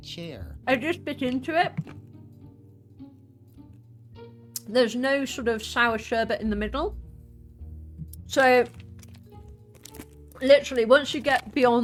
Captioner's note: crunching